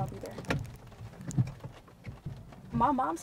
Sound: window wipers swishing

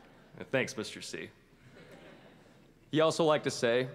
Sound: laughter

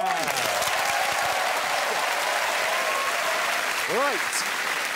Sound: crowd applauds and cheers

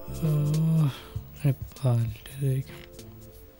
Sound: yawning

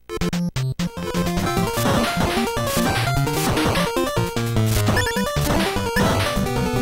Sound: game audio

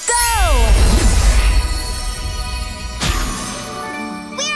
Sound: shimmering tone

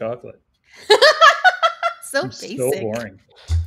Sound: laughs

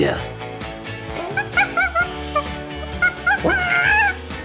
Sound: imitating monkey noises

